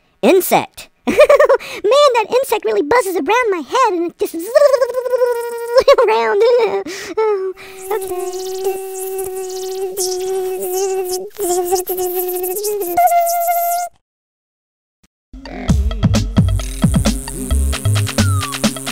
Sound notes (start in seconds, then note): 7.6 buzzing